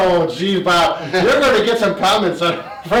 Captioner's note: laughs